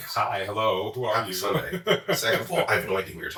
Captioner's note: chuckles